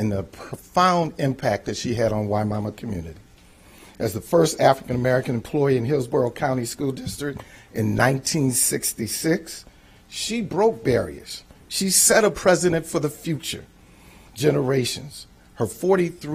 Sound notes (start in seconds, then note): none